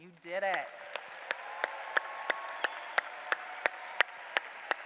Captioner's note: applause